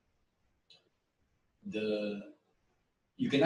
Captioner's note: pause